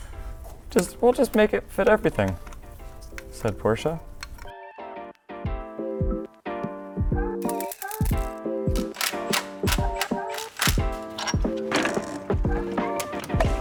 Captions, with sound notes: We'll just make it fit everything. Said Porsche. (tool ratcheting)